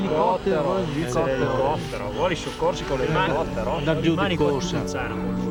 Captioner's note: speaking foreign language